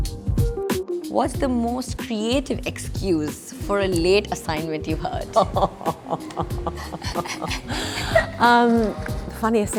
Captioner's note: laughs